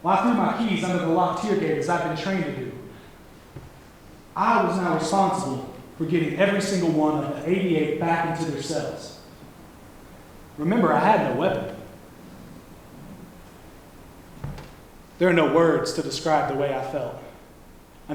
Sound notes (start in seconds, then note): none